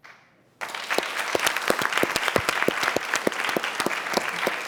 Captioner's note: applause